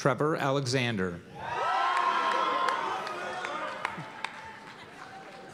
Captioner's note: cheers and applause